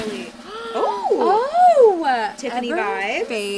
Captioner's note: both gasp